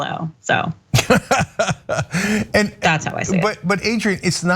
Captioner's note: laugh